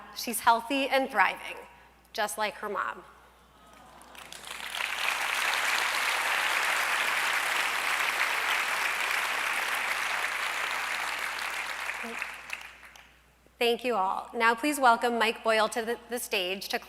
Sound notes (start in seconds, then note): 3.8 applause